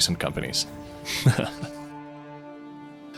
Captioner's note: laughs